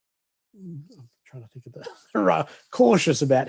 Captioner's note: chuckles